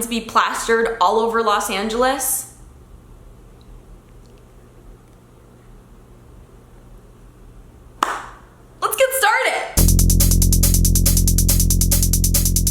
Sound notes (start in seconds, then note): 8.0 clapping; 9.8 funky music